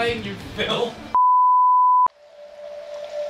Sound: high pitched beeping noise; tranquil music begins

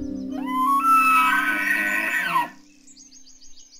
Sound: elk calling

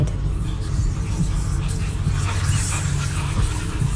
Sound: whispers

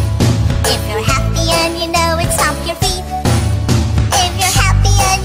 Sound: stomp stomp; stomp stomp

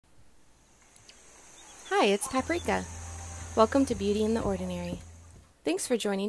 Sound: birds Chirping

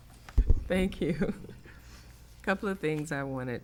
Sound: giggles

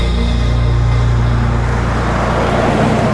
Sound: car driving

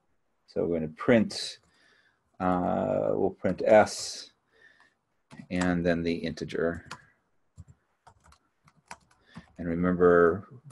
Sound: keyboard clicking

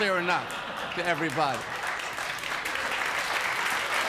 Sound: audience applause

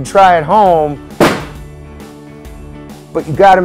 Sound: balloons pop

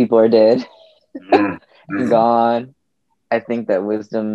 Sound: laughs

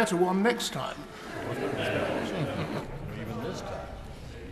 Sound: laughter in the crowd

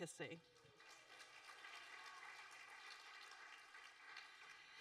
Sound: audience applauding

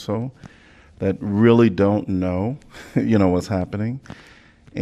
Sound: laughter

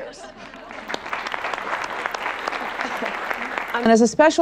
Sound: audience laughs and applauds

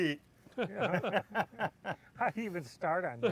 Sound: laughter

